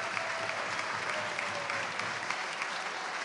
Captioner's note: applause